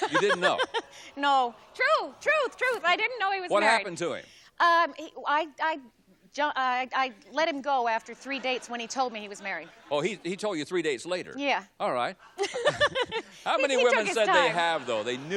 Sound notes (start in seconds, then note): 5.2 stammers